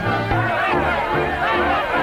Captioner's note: group yelling; tense dramatic orchestral music